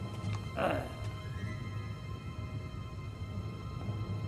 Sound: character grunting

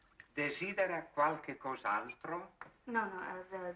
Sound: Italian spoken audio

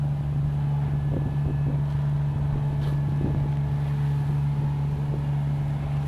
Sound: machine engine rumbling continues

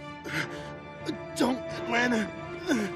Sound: gasping

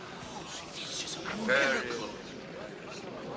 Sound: whisper

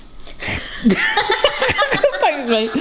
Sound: laughing

